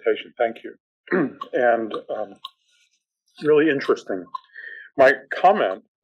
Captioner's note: cough